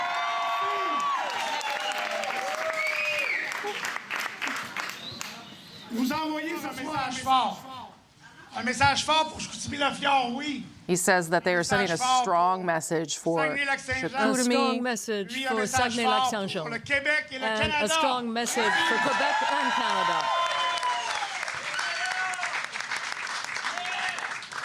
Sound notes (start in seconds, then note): 3.3 cheering; 10.4 speaking French